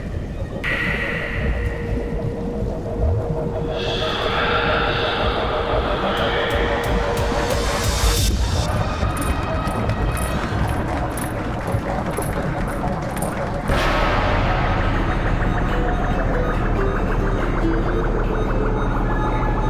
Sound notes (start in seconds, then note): 2.9 music intensifies; 15.0 electronic chirps